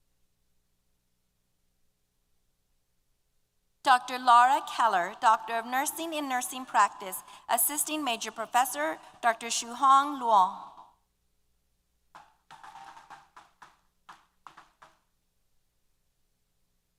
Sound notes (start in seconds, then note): 12.6 applause & Cheers